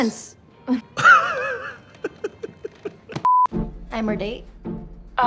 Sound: laughter

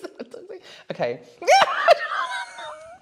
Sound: panicked Laughter

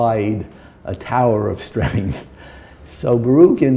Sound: chuckle

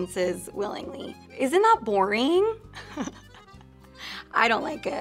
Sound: laughs

